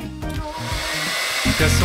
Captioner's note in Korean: 드라이기 소리